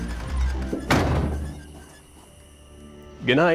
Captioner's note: door slams